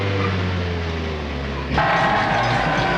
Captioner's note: cheering